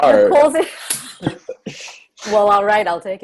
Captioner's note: all laugh